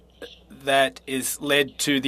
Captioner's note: speaking French